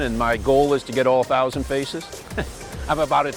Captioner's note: laughs